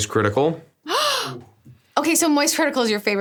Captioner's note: gasps